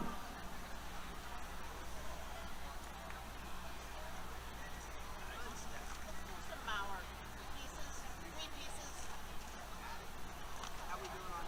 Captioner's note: background Conversation